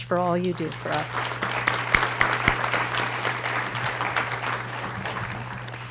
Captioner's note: audience applause